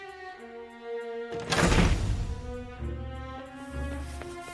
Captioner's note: bang!